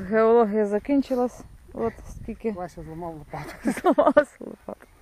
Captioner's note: laughter